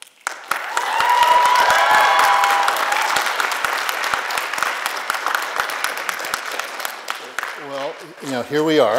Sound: applause

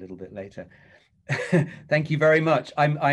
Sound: laughing

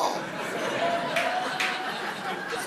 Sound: audience laughing

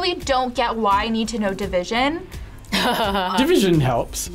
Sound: laughs

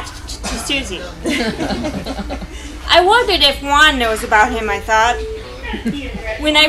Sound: laughter

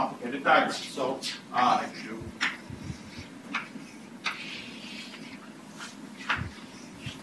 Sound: chalk writing on chalkboard

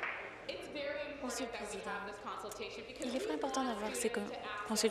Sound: applause

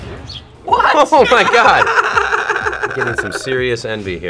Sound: laughs

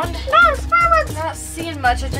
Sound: shouts

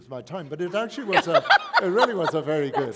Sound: laughter

